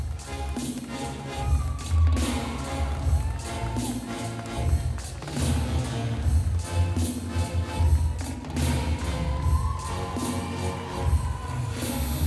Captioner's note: applause